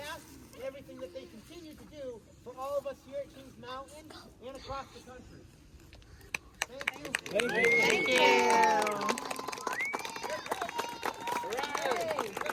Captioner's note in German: Applaus